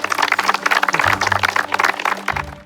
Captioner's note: crowd claps